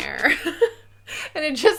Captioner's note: laughing